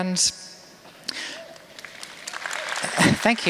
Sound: applause

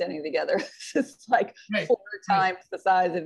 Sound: chuckling

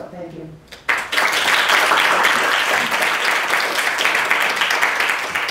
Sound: audience applauding

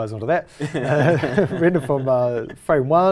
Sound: laugh

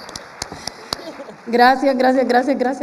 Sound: applause; laughs

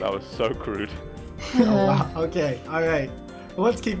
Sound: sighs

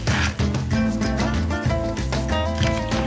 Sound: rice scattering

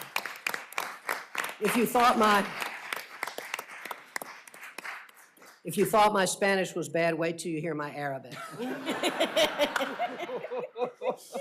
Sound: applause

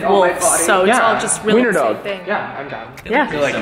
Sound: none

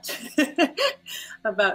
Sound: laughs

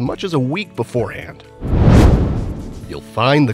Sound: meteor whooshes

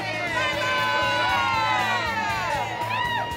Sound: crowd cheering

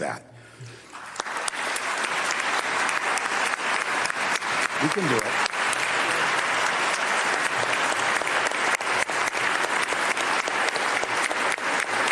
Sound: applause

